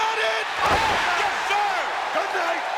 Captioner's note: audience cheering; body thudding